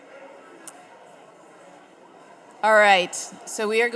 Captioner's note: audience murmuring